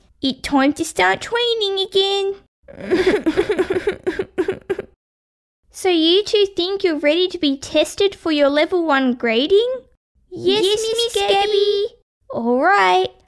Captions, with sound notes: It time to start training again! (Sobbing) So you two think you're ready to be tested for your level one grading Yes Miss Gabby! Alright!